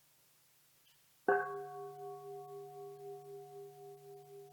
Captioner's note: bell dinging